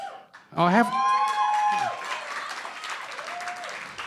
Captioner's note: cheering & Applause; shouting